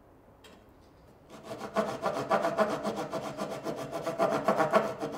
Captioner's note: tool scraping